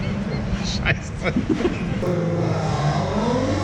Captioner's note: laughter